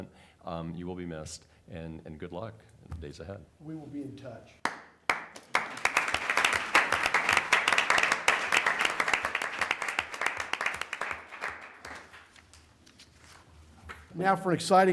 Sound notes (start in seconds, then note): 10.9 applause